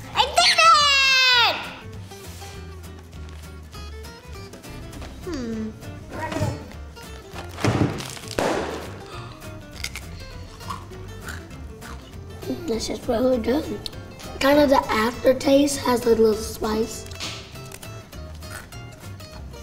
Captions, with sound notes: - I did it! - Hmmm. (Bag exploding) This is really good. Kind of the aftertaste has a little spice.